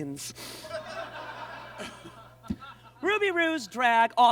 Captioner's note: audience laughs